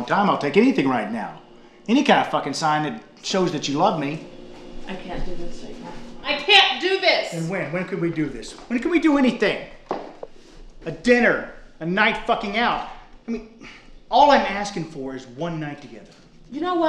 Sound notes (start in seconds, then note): none